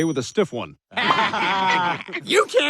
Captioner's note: family laughs